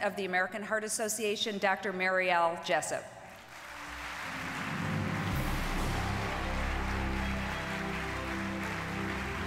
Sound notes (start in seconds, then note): 3.3 audience applauding